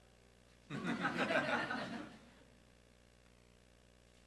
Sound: group laughing

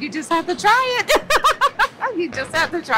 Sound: laughs

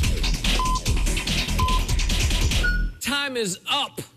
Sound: electronic beeping

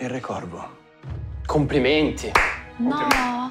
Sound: applause

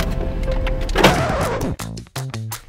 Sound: record scratch

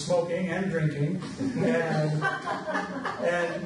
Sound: audience laughs

